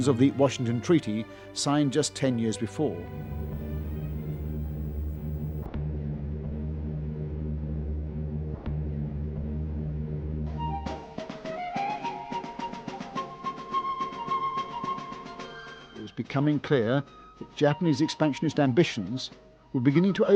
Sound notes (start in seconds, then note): 2.8 airplane engines drone